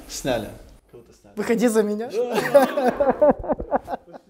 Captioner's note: laughter